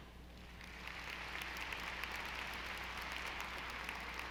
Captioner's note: audience applauding